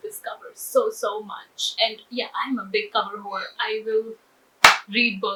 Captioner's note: loudly slaps her thigh